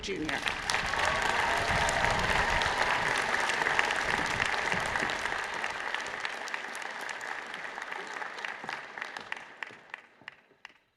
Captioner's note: applause